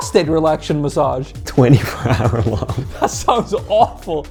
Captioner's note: laughs